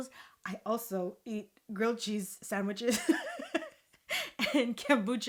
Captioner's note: laughing